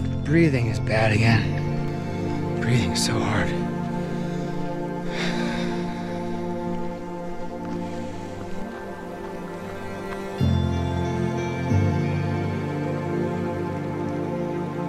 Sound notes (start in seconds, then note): 5.2 breathing heavily; 9.6 water bubbling